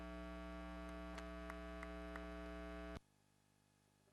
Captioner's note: applause